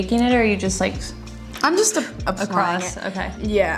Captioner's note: gentle blowing